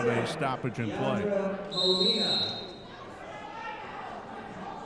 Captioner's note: referee whistling